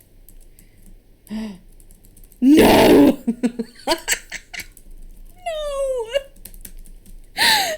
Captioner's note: cackles; gasps; sobbing; whines